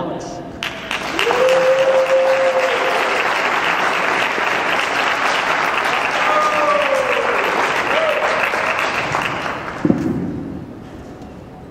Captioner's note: clapping and hollering